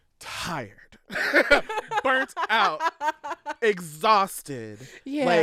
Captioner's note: laughter